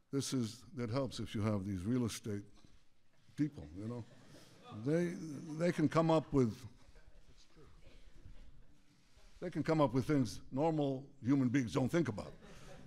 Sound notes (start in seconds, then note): 6.7 laughter